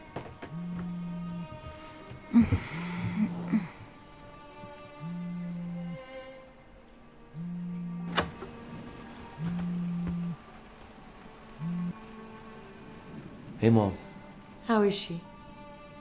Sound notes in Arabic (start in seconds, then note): 1.8 تتنهدات; 5.1 موسيقى هادئة مشوقة